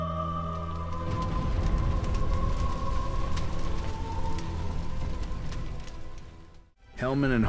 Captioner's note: fading crackling of fire